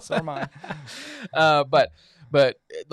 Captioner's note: all laughing